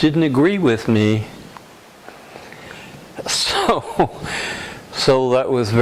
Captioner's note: laughter